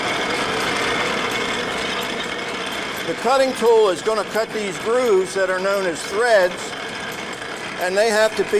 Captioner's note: industrial noise